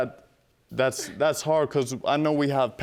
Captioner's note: scoffs